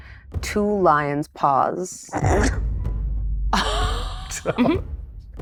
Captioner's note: chuckles